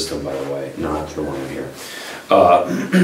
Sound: coughs

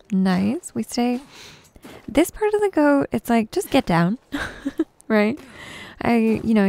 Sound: giggles

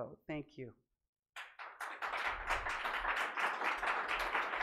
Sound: applauding

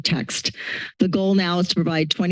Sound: inhales

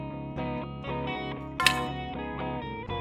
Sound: spear clatters

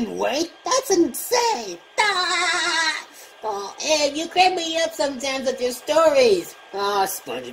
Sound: laughing

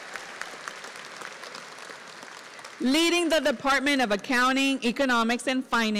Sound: applause

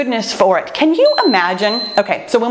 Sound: timer beeps

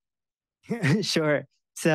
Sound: giggles

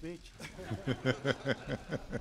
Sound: laughter

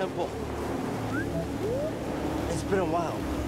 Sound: bee-boo-woop

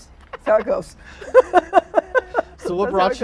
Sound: laughing

